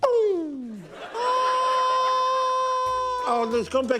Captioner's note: laughter